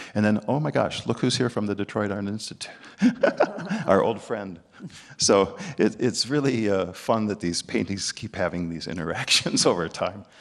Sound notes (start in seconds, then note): 3.0 both chuckling